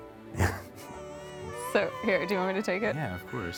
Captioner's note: baby crying